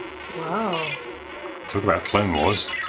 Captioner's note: video game beeping